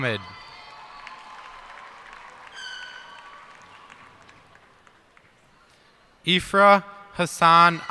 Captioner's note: cheers and applause